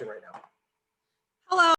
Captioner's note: woman's Voice